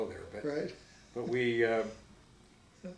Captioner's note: giggles